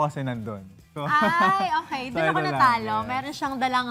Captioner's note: laughs